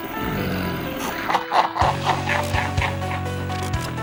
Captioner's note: wicked laughter